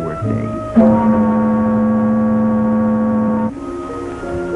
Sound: steam whistle blows

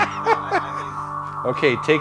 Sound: laughs

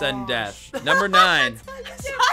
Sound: laughs

